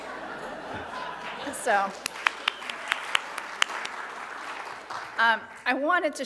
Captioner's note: audience applauds